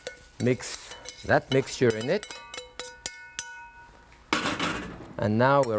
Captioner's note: spoon clinking pan